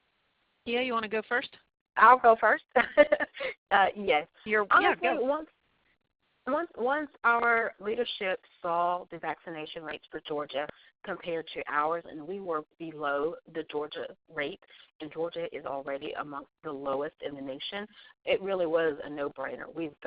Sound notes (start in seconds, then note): 2.9 laughs